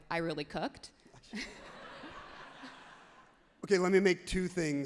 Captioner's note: everyone laughs happily